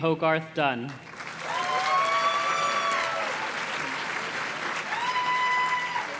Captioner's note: audience cheers and claps